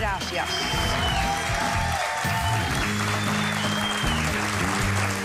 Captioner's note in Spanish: Aplausos